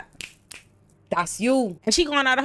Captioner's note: snaps